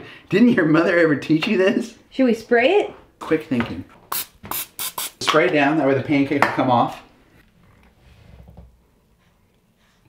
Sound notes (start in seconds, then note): 4.1 liquid spraying